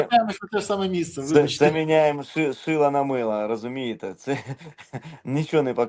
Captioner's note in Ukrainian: сміх